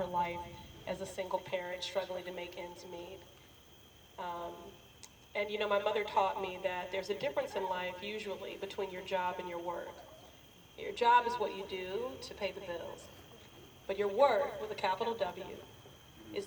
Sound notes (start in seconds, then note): none